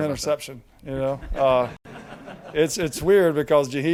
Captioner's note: people quietly laugh